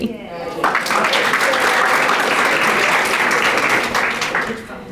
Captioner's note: audience applauding